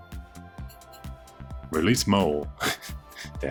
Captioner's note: laughs